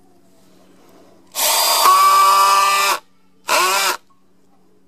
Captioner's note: loud whirling